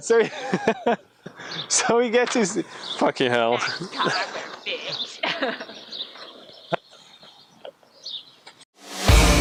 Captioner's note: laughing